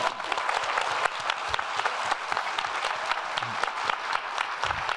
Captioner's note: applauding